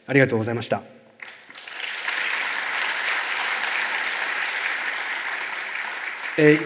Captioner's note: clapping sound